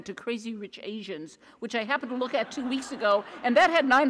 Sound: audience laughs

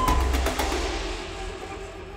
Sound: siren stops

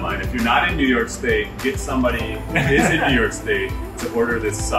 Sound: laughs

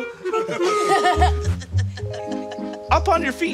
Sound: giggles

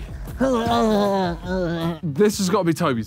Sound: grunting

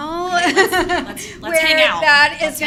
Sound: laughing

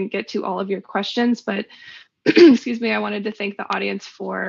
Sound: coughs

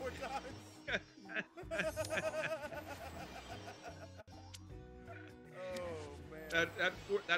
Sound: laugh

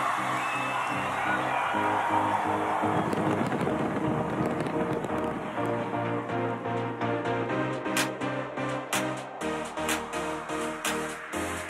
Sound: cheers and Applause

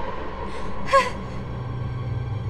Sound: ominous music; suspenseful music; scared breathing

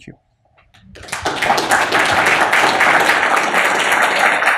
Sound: applause

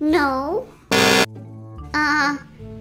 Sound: buzz

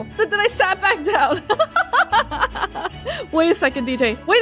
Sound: chuckles

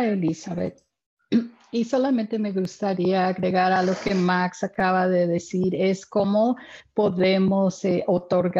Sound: speaking in spanish

